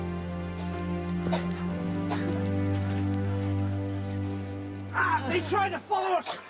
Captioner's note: Coral coughing